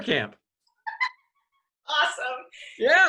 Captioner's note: laughs